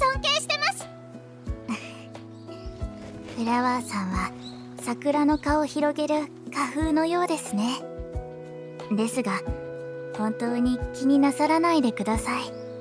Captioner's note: giggle